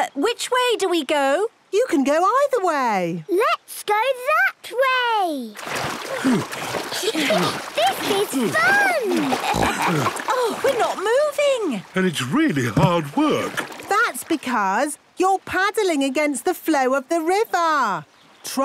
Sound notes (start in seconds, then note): 6.1 panting; 6.7 snorts, giggles